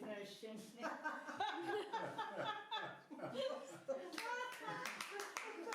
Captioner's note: everyone laughs